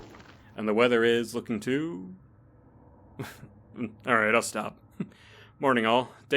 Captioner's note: soft chuckle